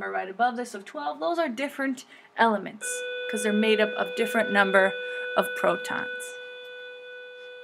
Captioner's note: beep